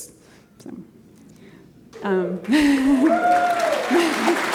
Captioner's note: cheers and applause